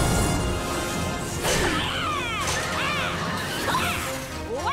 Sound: yelling

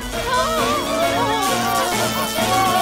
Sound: moaning

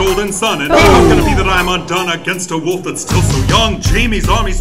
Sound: boom!

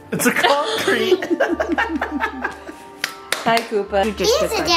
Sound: laughing; clapping

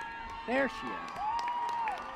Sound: applause

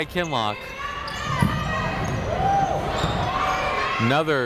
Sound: people shouting in the crowd

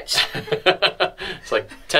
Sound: both laugh

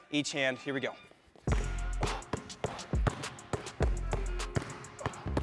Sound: ball bouncing

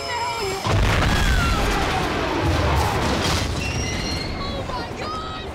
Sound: vehicle exploding

